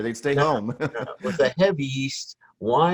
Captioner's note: laughs